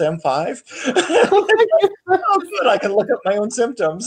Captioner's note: laughing